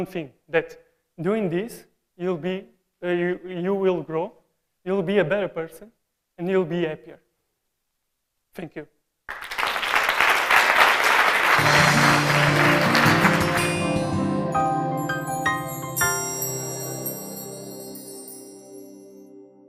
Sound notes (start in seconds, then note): 9.2 Aplausos; 9.2 Applaudissements; 9.2 Applause; 9.2 Applausi; 9.2 Аплодисменты; 9.2 تصفيق